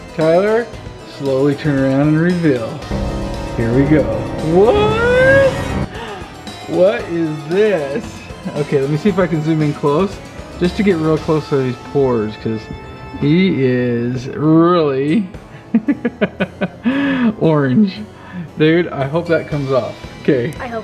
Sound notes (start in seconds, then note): 2.8 scary music; 5.9 gasps; 15.7 laughs